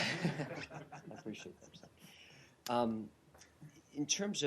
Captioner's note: laughter